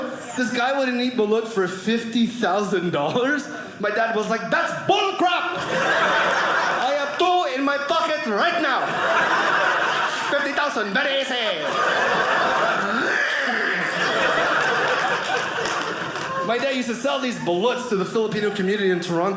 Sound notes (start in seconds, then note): 12.6 gagging; 14.1 audience laughing